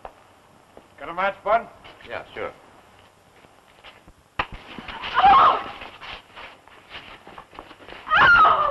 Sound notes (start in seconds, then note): 4.4 crack; 5.3 scream